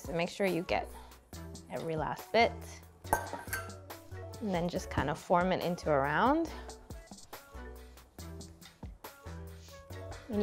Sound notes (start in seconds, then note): 3.1 bowl clunking on counter; 7.0 light upbeat music